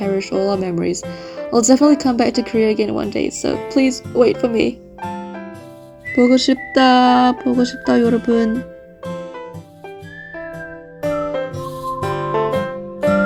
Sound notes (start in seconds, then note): 6.2 Korean